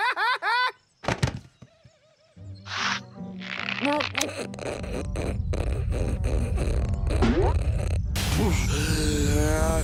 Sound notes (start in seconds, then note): 3.3 cinch creaking; 7.2 exhales and inhales